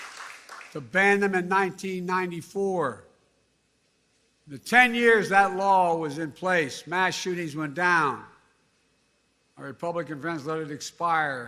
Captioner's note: cheers and applause